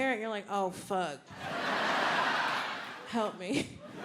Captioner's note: audience laughing